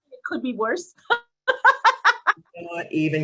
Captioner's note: laughing